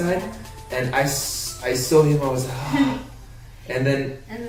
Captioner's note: sighs